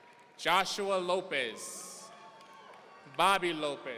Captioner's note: audience cheering